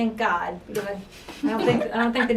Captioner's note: laughing